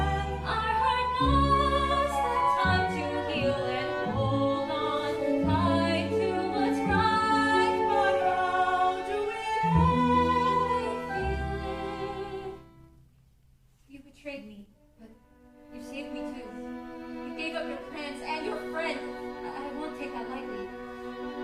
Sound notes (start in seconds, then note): none